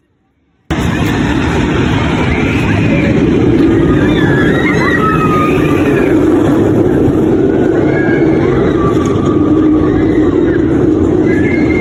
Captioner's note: just more crunching